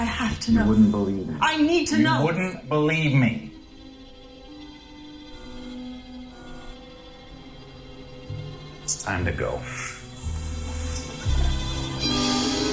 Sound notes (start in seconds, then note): 3.4 communicator buzzing